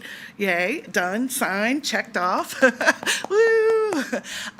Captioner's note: laughs; attendee clapping